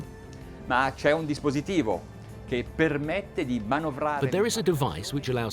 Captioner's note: speaking in a foreign language